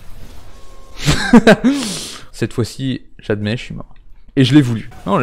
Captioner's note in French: Rire